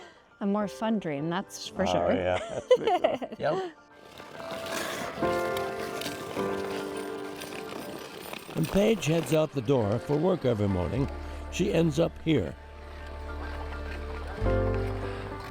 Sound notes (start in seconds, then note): 2.0 both laughing; 4.0 skate blades carving ice; 12.3 skates blades carving ice